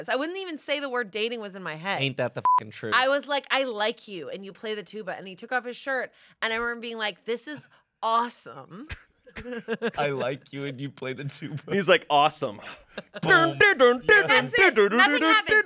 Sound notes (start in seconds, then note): 2.4 beep; 9.4 everyone laughs; 13.5 vocalizes